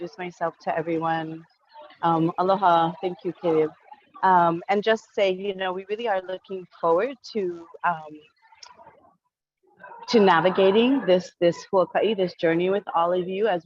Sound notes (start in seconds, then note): 2.6 foreign language